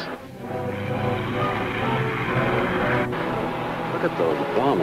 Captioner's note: car engine revving